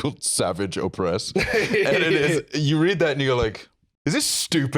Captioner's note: laughs